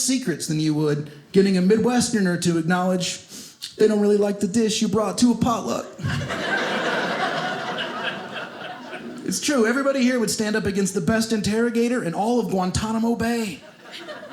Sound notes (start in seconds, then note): 6.0 audience laughing